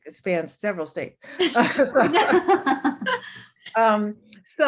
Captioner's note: laughter